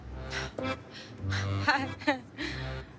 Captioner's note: Chuckles